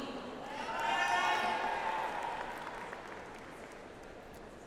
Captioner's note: audience applauds